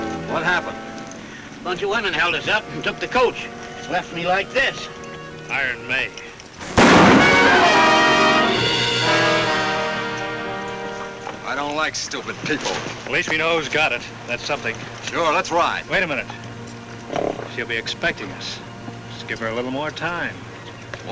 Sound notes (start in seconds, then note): 6.6 dramatic music; 6.6 gun bangs